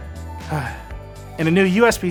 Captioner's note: takes a breathe